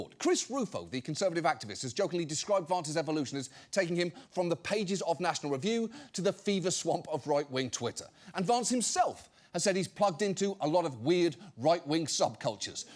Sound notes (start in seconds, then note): none